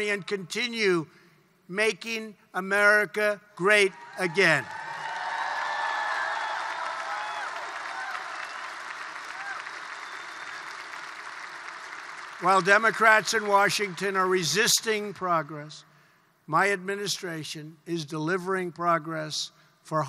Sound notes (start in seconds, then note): 4.5 applause